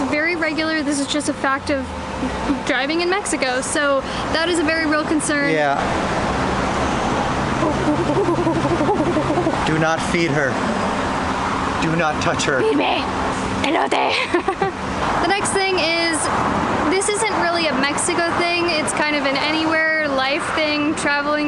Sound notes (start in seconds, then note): 7.5 making monkey sounds; 13.8 laughter